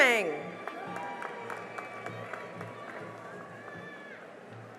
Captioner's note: cheering and applause